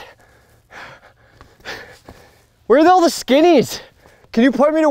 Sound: panting

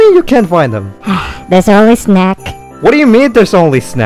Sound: sigh

